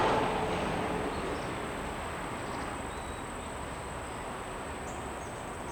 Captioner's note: wind blowing